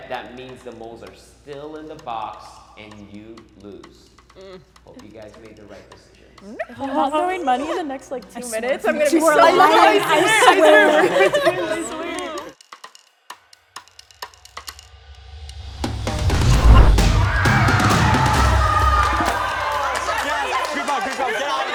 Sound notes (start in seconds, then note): 6.5 crowd speaks; 12.8 ticking suspenseful music; 16.6 crowd cheers